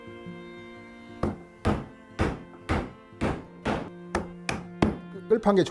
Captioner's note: hammering sound